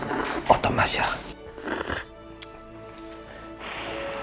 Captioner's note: slurp